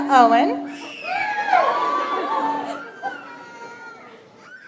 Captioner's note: audience applauds